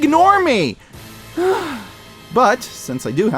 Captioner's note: sigh